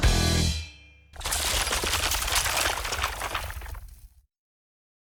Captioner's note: shattering